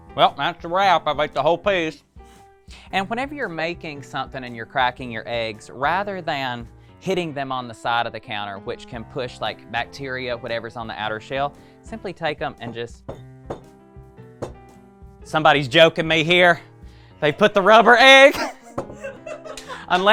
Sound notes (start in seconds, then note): 14.4 egg bangs; 18.9 laughs